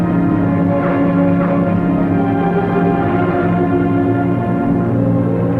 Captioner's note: plane tires squealing